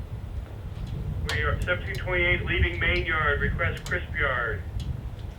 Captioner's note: radio